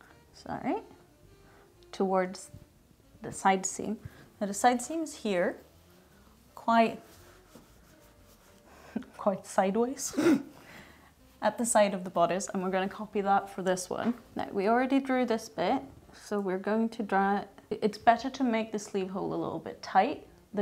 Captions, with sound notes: Is that right? Towards the side seam. Now the side seams here quite, (laughs) quite sideways at the side of the bodice and we're going to copy that for this one. Now we already drew this bit so we're going to draw, it's better to make the sleeve hole a little bit tight